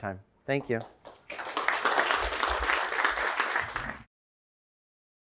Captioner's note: applause